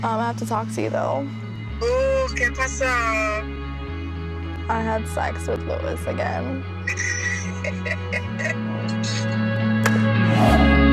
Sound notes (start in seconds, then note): 2.4 foreign language; 6.8 laughs